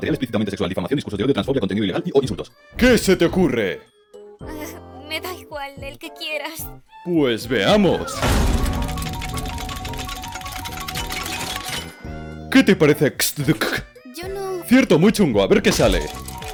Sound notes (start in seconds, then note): 8.1 wheel dinging; 13.1 stammers phonetic sounds